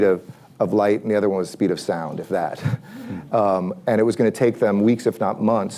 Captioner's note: laughs